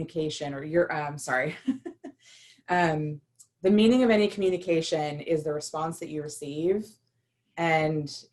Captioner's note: laughter